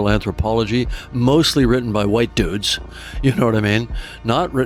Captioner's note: chuckling